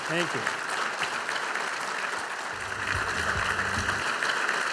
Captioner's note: audience applauding